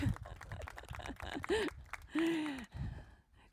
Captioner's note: laughing